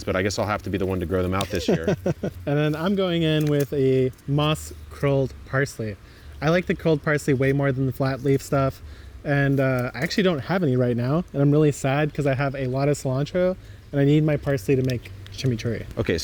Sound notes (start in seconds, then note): 1.4 laughs